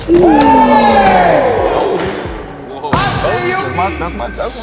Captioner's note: all gasping